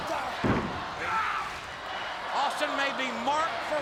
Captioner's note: audience chanting and clapping